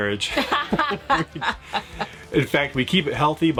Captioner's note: laughing